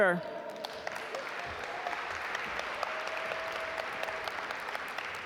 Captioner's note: audience applaud